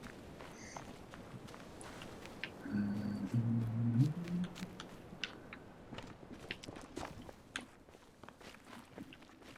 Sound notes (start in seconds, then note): 2.6 humming